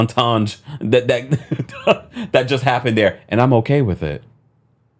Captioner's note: laughs